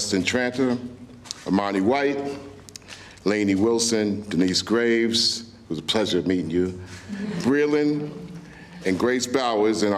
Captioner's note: laughter